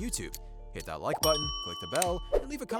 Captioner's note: bell dings